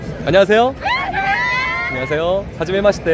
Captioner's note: Screaming